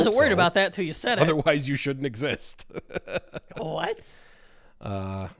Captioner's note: laughs